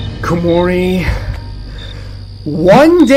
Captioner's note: inhales